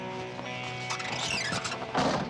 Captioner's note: car door creaks; door slams